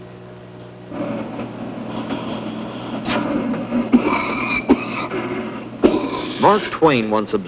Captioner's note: sound of man using breathing machine, coughing, and wife pounding on his back